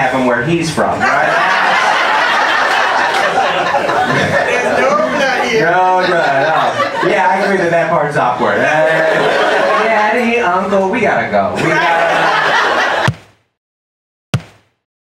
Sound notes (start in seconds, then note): 1.0 audience laughs